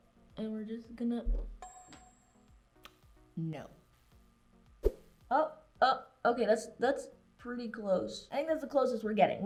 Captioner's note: ding Sound